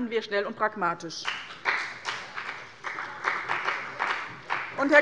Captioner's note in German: Beifall bei dem BÜNDNIS 90/DIE GRÜNEN und der CDU